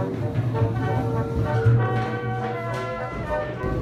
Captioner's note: feet stomping